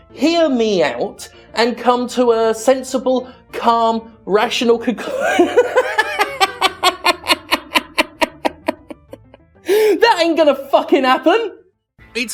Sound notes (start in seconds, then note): 5.1 laughing